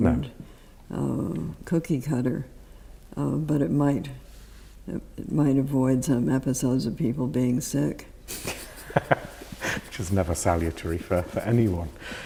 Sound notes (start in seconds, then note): 8.4 laughs